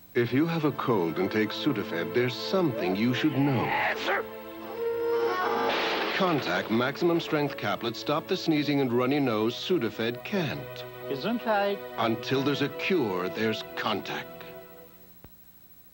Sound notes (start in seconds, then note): 3.6 Sudafed sign guy sneezes loudly; 5.6 metal creaks as sign falls